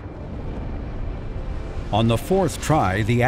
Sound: daunting music; rocket engines roaring

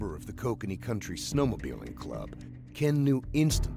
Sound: voiceover

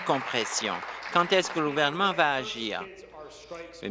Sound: applause

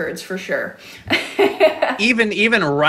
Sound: laughs

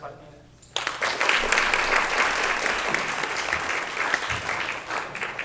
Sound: applause

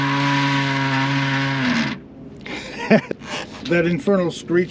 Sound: screeching

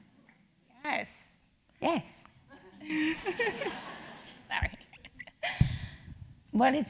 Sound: laugh

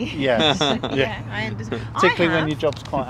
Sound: laughter

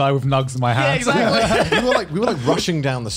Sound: laughs

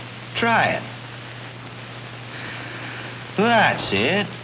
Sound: breathing

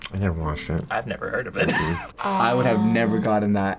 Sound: laughs

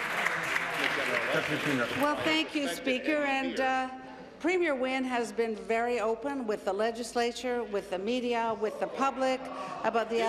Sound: applause

